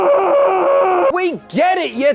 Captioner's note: screams